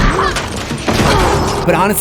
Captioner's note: screams